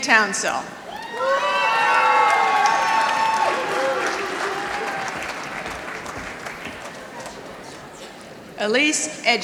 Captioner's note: applause